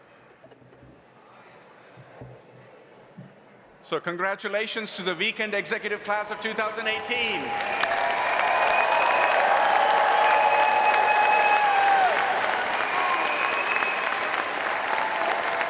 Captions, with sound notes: - So congratulations to the Weekend Executive class of 2018. (audience applauding) (audience cheering)